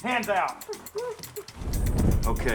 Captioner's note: whimpering